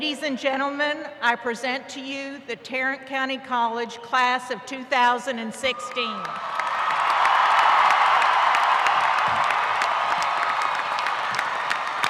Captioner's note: applause